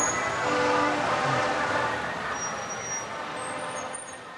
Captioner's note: horns honking